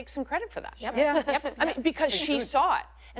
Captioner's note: laugher